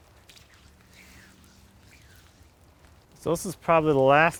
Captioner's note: water splashing; water sploshing